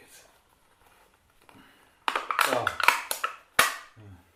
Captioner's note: can crunches